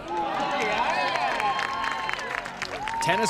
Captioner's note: clapping